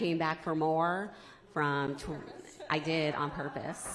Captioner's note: laughter